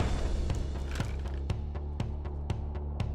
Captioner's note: crashing sound